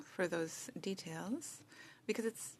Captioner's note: speaking French